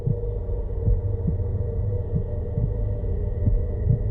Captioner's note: heart beating